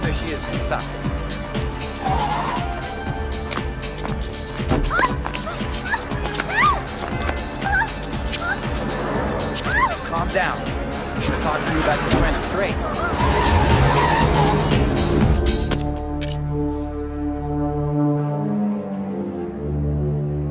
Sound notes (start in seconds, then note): 2.1 tires squealing; 4.9 Nurse Ramos screaming; 13.2 tires squealing; 15.9 slow ominous music